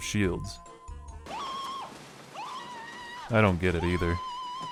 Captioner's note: Totally-Non-Mandalore-Like Marv Scream